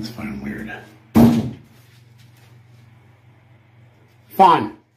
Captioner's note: knock on the door